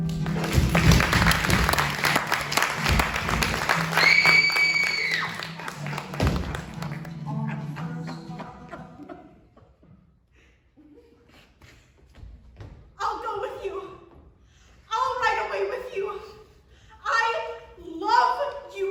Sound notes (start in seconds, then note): 3.9 a bloodcurdling scream; 6.2 thump